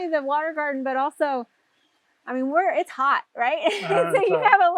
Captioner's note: laughs